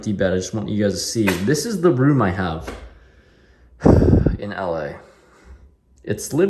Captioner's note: sigh